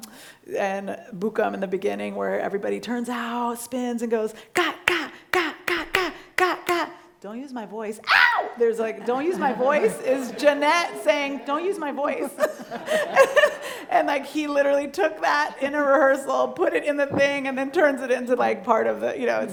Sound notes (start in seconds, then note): 4.9 clapping; 8.0 screams